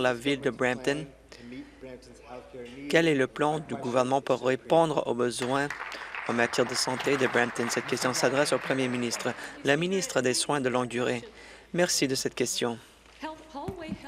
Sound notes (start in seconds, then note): 8.8 applause